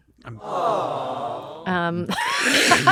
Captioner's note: awws